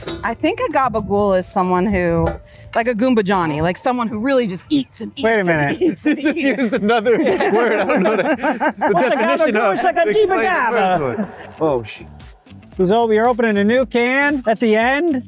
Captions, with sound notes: I think a gabba-gool is someone who, like a Goombajani, like someone who really just eats and eats and eats. Wait a minute. This is another word. (laughing) It's like a jimba-jama. Oh, sh. So we're opening a new can at the end.